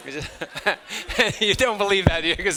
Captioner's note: chuckles; students laughing